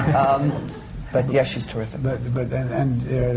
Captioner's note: laughter